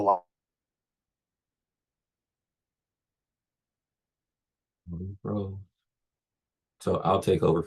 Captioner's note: microphone feed ends abruptly